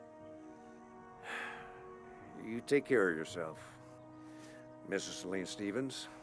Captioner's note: sighs